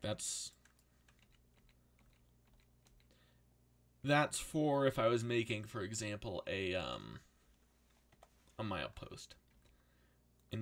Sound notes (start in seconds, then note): none